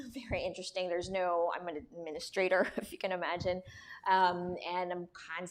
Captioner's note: laughter